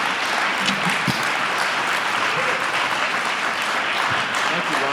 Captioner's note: applause